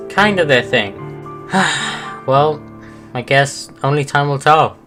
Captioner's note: sigh